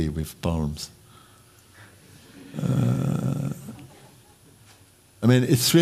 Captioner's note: laughter